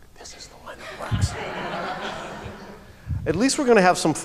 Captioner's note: laughter